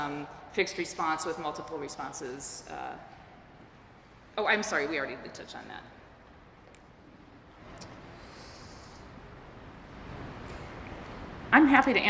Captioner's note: pause